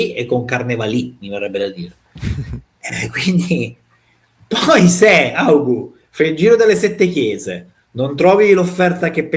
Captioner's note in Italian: risate